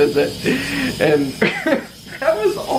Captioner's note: chuckles